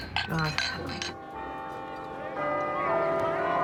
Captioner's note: bell tolls